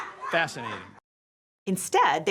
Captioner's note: people laughing